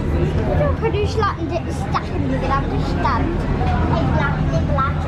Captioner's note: girls jabbering in gibberish